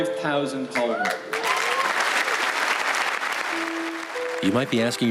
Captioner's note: audience applauds